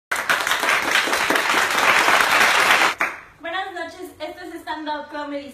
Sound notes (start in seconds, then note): 0.1 applause